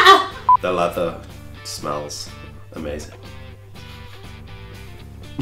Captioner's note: laughing; chuckling